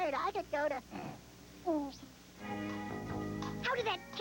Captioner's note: snore